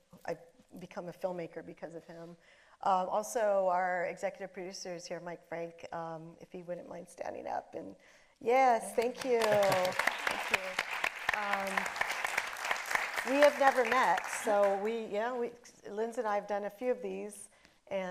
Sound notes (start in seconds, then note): 8.9 audience applauding